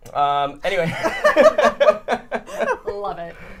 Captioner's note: people laughing